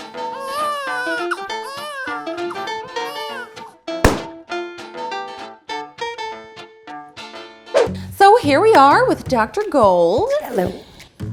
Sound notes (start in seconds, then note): 0.0 baby cries; 2.4 fun music; 4.0 pop